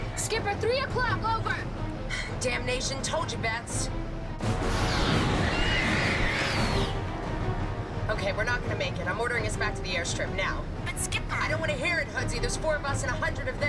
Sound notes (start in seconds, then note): 4.7 creatures screeching